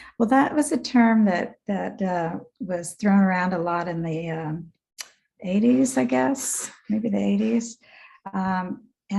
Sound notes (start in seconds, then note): 4.9 lip smack